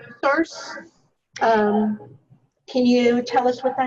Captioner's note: distorted speaking due to echo